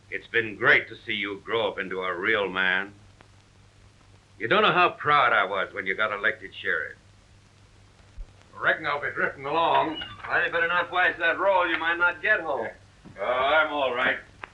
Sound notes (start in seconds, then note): none